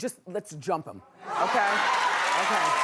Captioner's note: cheering